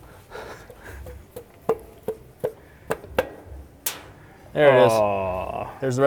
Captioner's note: hammer thudding